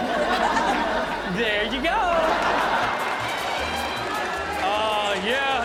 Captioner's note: audience laughing